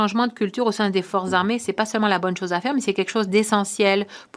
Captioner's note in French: voix de l'interprète